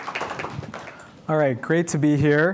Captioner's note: applause